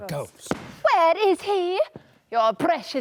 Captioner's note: stomps